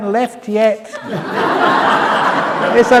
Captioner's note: laughter